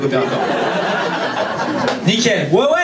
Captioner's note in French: rires public